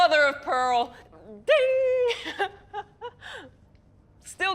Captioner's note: laughs